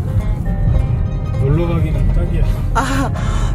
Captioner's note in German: Gelächter